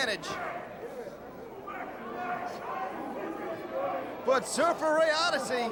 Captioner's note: crowd chatter